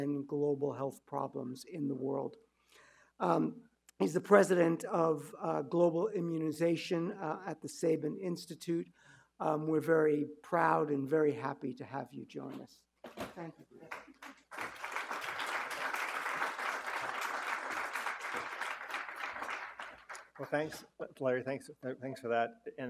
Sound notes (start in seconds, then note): 13.8 audience applauding